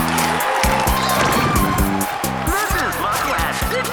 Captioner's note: cheering